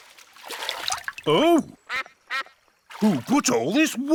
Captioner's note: quacks